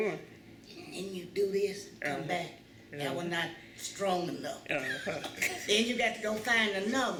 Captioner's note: laughter